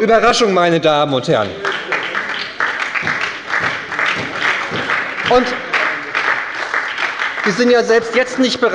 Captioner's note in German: Beifall bei der SPD